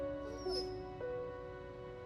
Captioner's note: dog whines